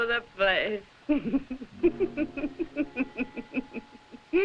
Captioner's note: laughing